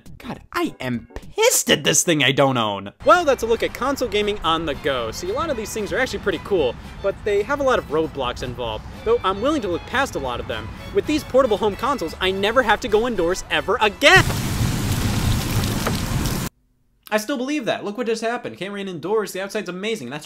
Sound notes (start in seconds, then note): 14.0 rain pouring